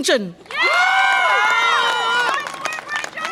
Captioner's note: audience applause and cheer